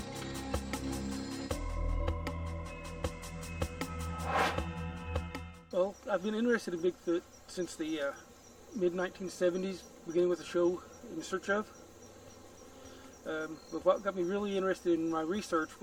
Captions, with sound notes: (intriguing music continues) (air swooshes) - Well, I've been interested in Bigfoot since the mid 1970s, beginning with the show "In Search of..." But what got me really interested in my research